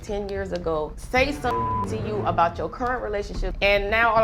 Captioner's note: beep